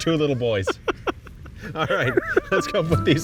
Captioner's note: laughing